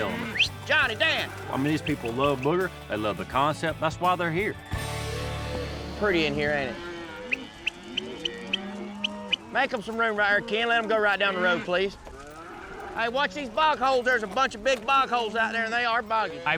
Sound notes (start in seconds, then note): 0.3 whistles; 6.6 whistling, mooing